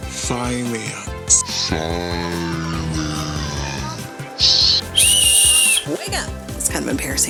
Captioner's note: whistle